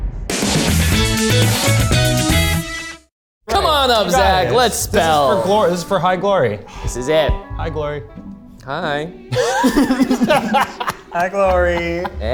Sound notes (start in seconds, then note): 0.0 dramatic music; 0.3 upbeat music; 9.3 laughs